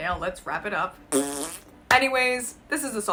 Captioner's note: blows raspberry